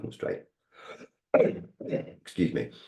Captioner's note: clearing throat